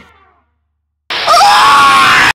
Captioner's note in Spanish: chillido de markiplier